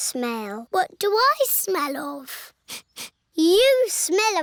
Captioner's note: sniffs